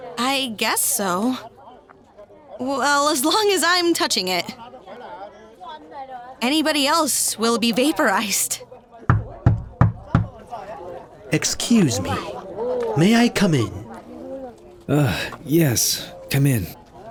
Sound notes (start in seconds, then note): 9.1 knock on door